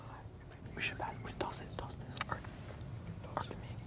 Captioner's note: whispering